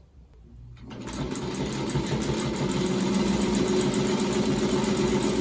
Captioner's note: sewing machine whirring